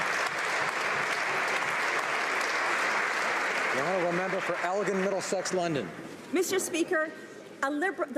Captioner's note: applause